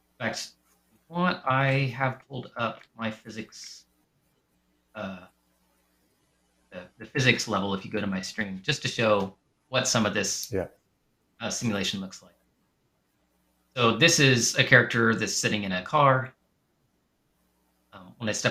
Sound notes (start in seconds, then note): none